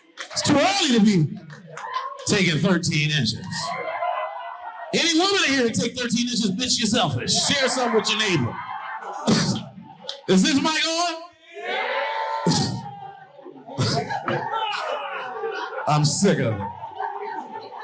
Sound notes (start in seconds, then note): 13.4 audience laughing